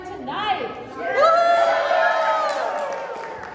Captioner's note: woohoooo clap clap